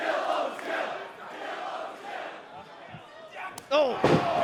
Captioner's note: fans chanting